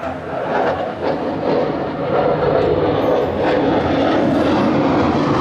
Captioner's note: airplane whooshing